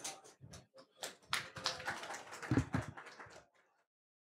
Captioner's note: applause